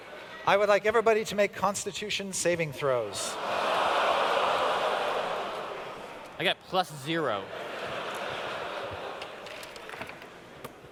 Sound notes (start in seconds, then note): 3.1 audience exclaims in surprise; 7.4 laughter